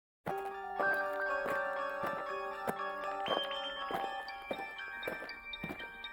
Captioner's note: alien footsteps; eerie music